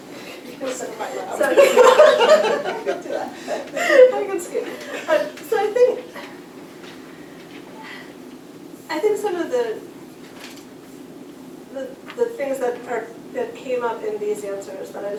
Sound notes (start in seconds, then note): 2.8 laughter